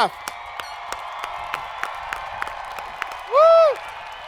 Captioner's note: students cheering